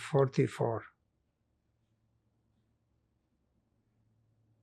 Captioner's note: pauses 6 seconds